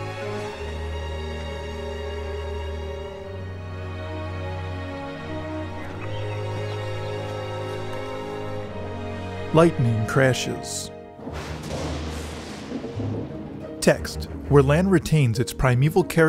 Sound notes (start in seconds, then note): 11.2 thunder and lightning